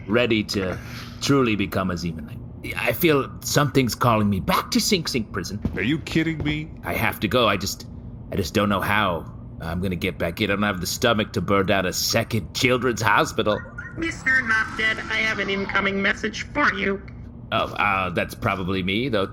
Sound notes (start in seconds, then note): 12.6 incoming transmission beep-boops